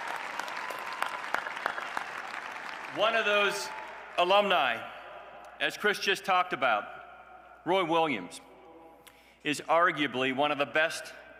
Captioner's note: applause